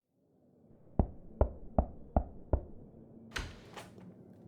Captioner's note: door knocks